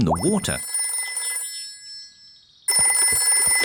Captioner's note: phone ringing